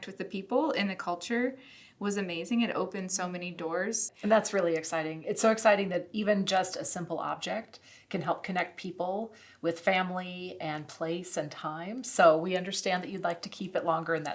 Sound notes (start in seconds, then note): none